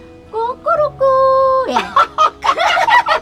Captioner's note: both laughing; mimicking chicken sound